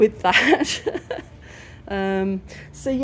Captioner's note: laughing